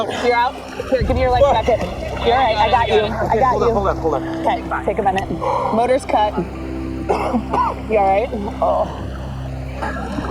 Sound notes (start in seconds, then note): 5.4 exhales deeply; 7.0 coughs